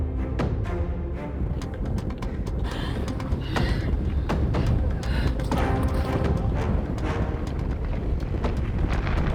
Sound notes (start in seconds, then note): 2.9 Glenda panting; 6.3 ground rumbling